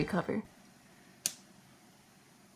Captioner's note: click